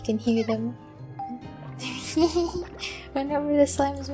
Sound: chime; giggling

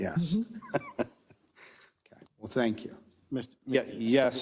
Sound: laugh

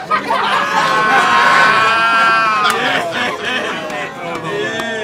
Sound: audience laughs

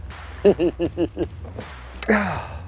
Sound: laughs

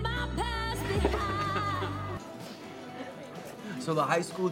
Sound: laughing

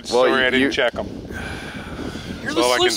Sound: sighs

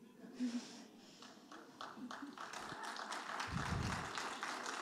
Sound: audience applauding

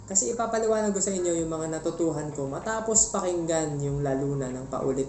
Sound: none

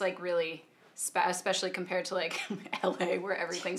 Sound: laughing

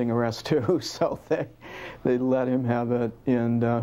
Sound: laughs

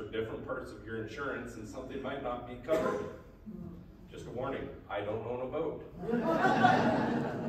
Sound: laughs

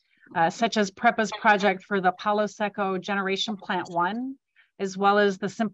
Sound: spanish

